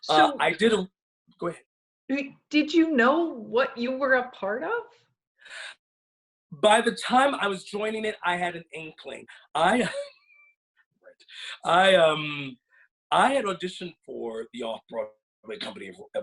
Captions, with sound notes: - So-- - I didn't-- Go ahead. - Did you know what you were a part of? - By the time I was joining it, I had an inkling. I, (laughs) I had auditioned for the off-Broadway company